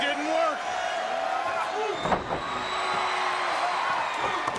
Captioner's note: crowd cheering